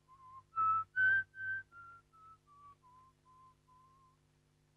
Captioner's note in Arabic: الرجل يصفر